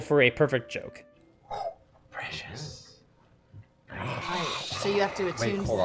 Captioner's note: whispers